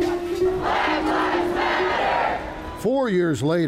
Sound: crowd

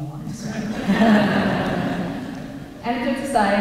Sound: laughter

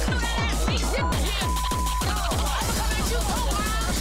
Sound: beep

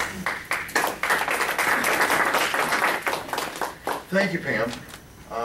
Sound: applause

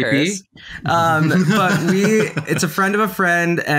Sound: laughing

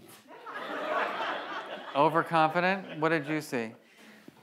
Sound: audience laughs

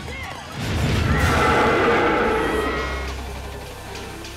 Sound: roaring; screaming

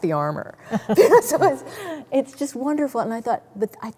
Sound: both giggles

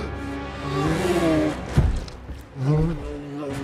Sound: moans

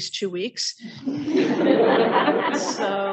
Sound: audience laughing

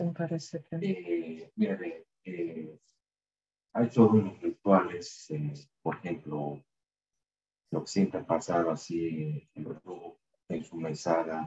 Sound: speaking in spanish; speaking in spanish

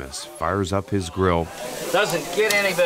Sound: grill sizzling

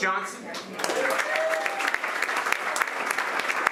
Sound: applause

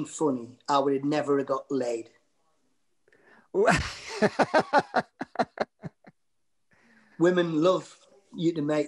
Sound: laughter

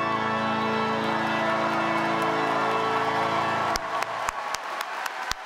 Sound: cheers, applause

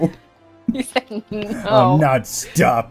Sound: while laughing

